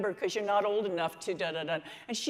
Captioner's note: mutters